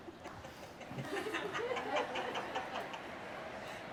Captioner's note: laughter